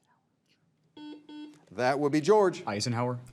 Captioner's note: signal beeps